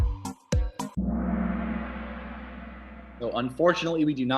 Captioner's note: gong